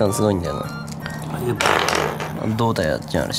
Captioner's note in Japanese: カランカラン